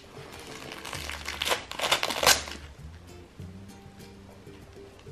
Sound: paper ripping

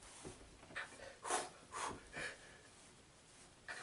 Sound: spitty pump-up breaths

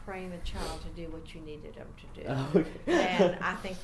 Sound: laughing

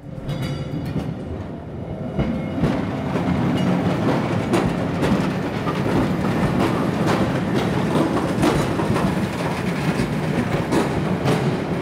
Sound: steam train passing

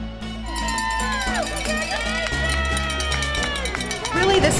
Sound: crowd cheering

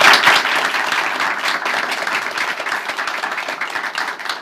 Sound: applause

